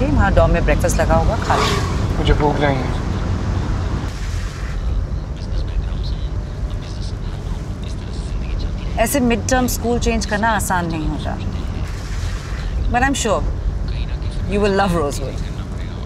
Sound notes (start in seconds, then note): 4.8 radio playing